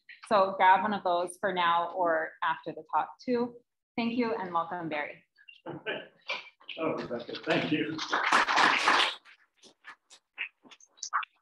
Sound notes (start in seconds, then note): 5.6 laughing; 7.3 audience clapping